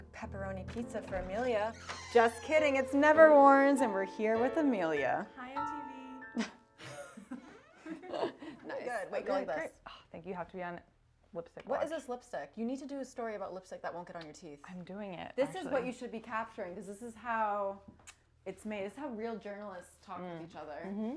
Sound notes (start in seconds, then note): 6.7 both laughing